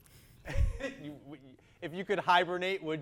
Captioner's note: player laughs